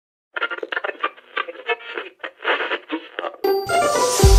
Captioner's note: radio frequency